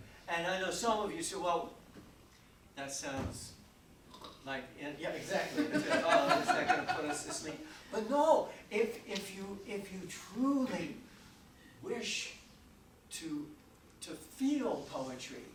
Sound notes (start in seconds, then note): 4.0 gurgling; 5.5 audience laughing drowns out